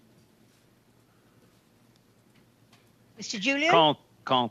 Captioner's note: speaking French